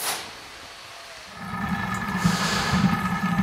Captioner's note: deep bubbling sounds